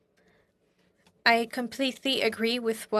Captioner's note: speaking French